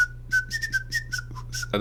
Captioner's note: whistling